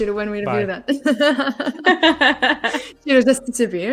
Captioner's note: laughter